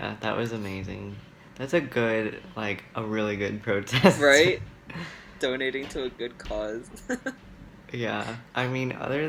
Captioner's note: laughs